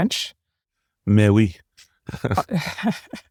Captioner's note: laugh